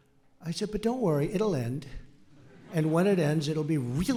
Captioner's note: laughter